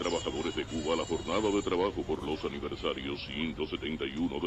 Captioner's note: radio